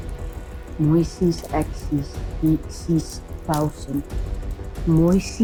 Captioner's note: speaking foreign language